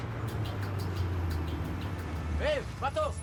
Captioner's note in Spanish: ruido del motor del auto